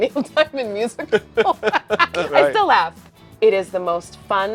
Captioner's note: both laugh